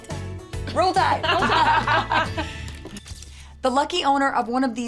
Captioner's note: laughter